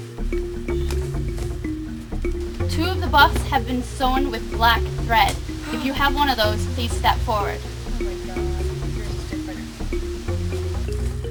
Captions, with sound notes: Two of the buffs have been sewn with black thread. (gasp) If you have one of those, please step forward.